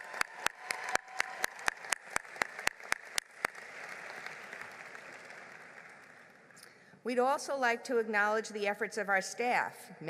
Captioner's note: applause